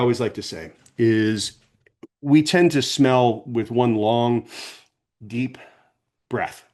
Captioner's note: sniffs